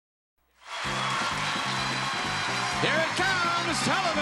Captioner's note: audience applauding; lively music